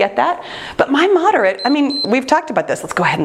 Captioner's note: timer beeps